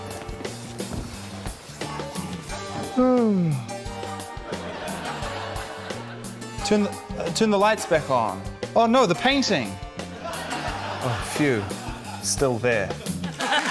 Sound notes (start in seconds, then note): 2.8 yawns; 13.0 laughter